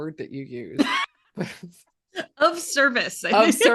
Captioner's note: both laughing